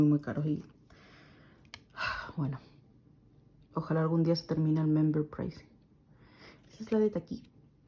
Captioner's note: sighs